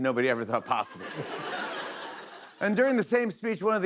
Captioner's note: laughter